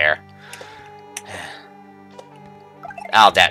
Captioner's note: breathing